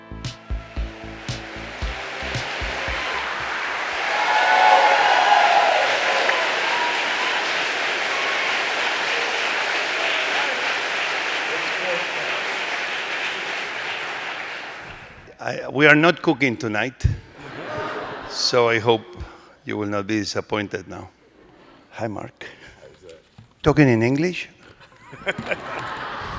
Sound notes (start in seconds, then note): 0.0 theme music plays; 6.9 audience applause